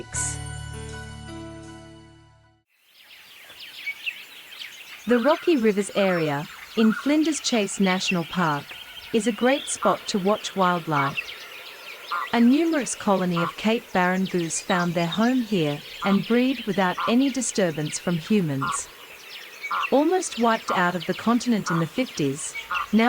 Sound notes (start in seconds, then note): 3.0 birds' chirping noises; 11.3 birds' chirping sounds; 18.9 cape barren sound